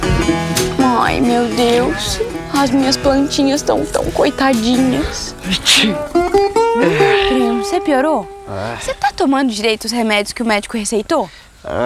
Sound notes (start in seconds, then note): 5.0 Jotapê sneezes